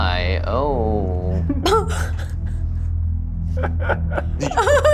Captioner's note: laughter